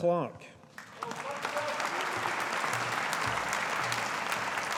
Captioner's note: audience applauding